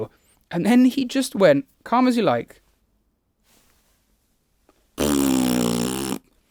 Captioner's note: blows raspberry